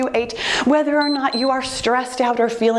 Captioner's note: timer beeps